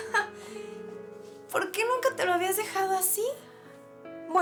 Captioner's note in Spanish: Risas